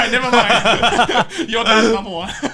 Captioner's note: laughs